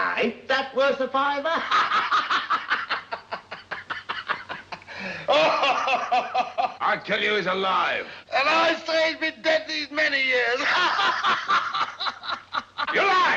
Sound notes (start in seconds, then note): 1.5 laughing; 10.5 laughing